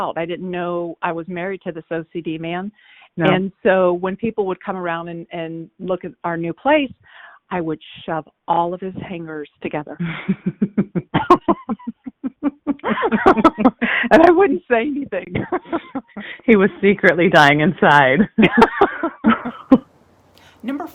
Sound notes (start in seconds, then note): 10.0 both laughing; 10.0 sister laughing; 15.2 laughs; 18.2 both laughing